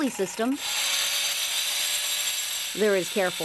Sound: saw whirring

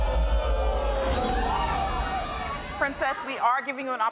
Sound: audience gasping

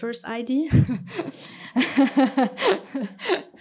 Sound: laughter

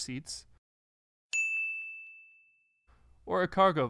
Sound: bell rings

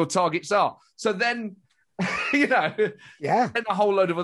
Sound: laughs

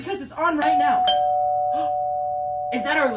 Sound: door bell rings

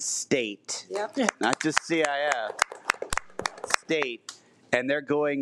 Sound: audience applauds

